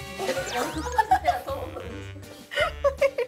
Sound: another laughter attack

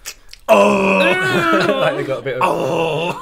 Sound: horrendous Throat Noises

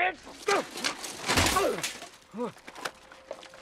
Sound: grunts

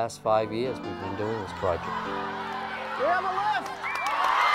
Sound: cheers

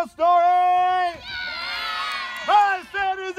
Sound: cheering

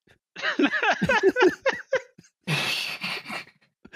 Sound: laughter

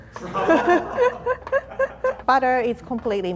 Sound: laughing

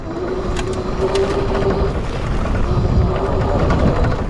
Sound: bike motor revving

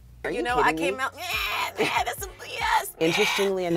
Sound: mimicking baby voice

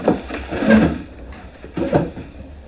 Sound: chair squeaking

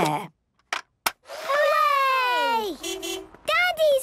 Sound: distant beeping

